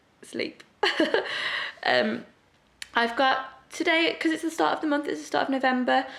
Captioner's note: laughs